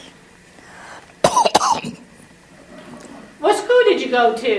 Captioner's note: cough